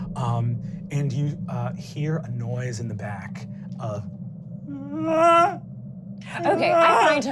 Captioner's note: screaming